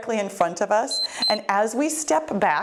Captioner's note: timer beep